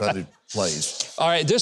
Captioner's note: host laughs